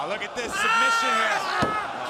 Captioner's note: crowd cheering